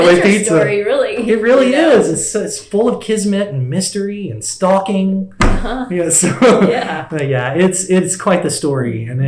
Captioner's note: laughs